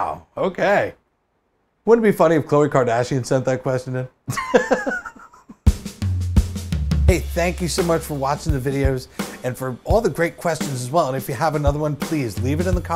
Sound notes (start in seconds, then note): 4.3 laughs